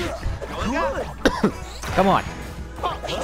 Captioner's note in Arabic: سعال